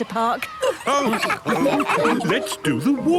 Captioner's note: all laughing